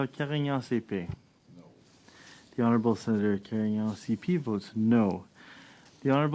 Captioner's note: speaking French